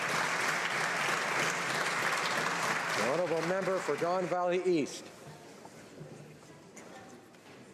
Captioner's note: some Applause